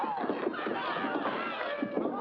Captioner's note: thump